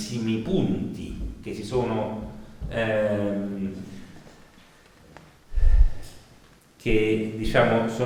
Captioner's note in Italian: sospira